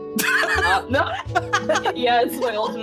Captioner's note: laughing